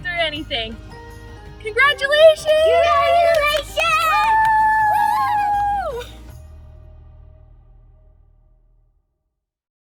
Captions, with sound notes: we can make it through anything! Congratulations! >> Congratulations! [cheering]